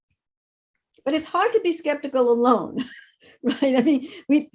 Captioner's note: laughs